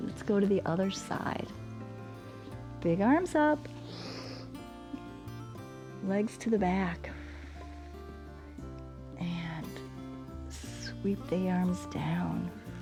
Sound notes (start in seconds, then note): 3.8 inhales; 7.1 exhales